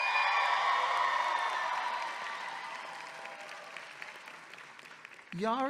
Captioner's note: audience clapping and cheering